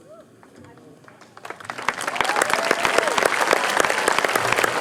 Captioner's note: applause